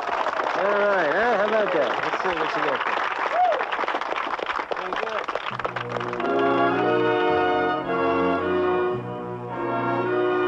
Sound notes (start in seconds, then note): 0.0 audience applauding; 7.4 dramatic music